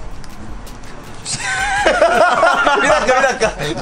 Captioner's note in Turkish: Hahahaha!